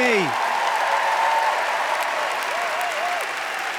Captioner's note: cheering, applause